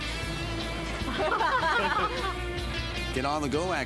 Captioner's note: laughing